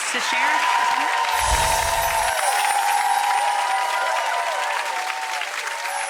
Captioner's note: audience applauding and cheering